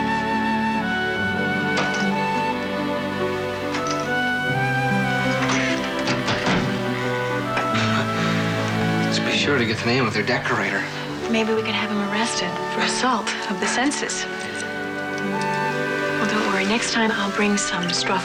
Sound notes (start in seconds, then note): 6.5 chuckles